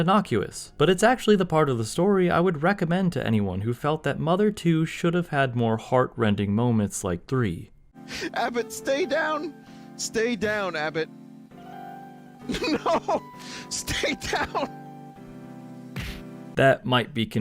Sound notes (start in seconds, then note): 9.3 laughing; 12.5 chortling; 15.9 whack